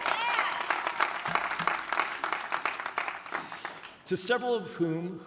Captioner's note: audience applauding